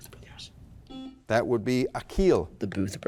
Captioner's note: buzzer blaring